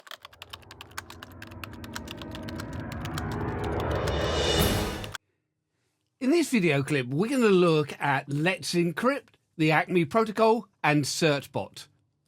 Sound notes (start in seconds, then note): 0.0 typewriter sounds